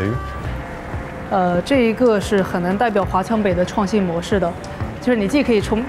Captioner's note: speaking in Chinese